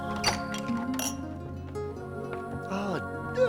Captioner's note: glasses clinking